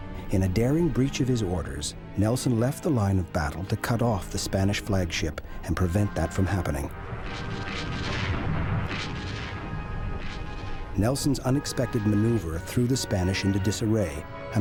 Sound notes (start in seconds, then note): 7.0 explosions booming